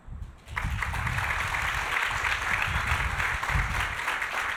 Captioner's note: audience applauding